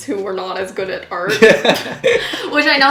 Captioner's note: both laughing